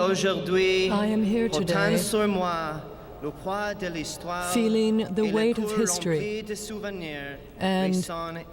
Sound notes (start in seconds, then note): 3.3 speaking French